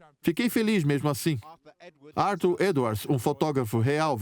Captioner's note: voiceover